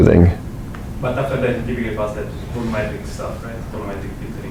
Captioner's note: man speaks with heavy accent